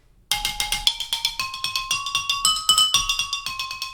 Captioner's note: different pitch glass sounds